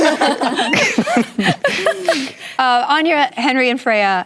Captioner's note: laughter